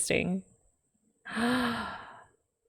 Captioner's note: gasps